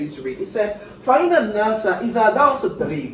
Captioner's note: non-english speech